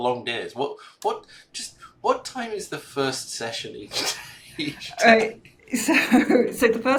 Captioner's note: chuckling